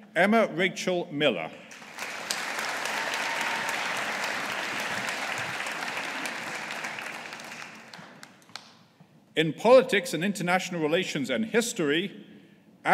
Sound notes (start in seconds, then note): 1.7 audience applauding